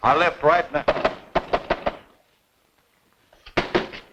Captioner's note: hand banging